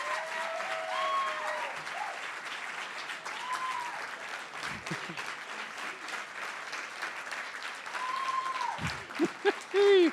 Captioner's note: cheering & Applause